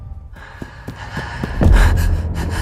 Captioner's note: panting